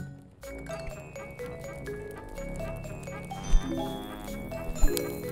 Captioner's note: flame crackles